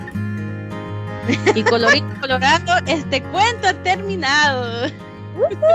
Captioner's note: rangers speaking Spanish